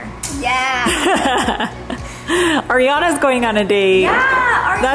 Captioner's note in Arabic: يضحك